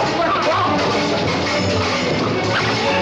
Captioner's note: ruffians shouting